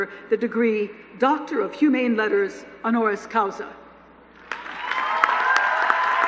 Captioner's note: applause